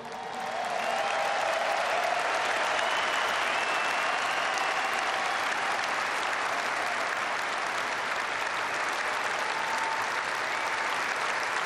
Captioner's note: applause